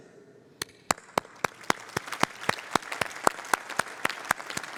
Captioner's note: applause